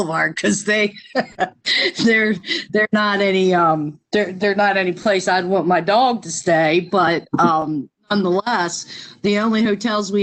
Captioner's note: laughter